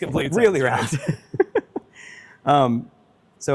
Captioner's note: laughs